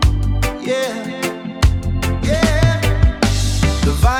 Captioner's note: ooh, ooh